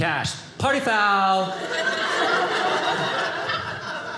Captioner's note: audience laughing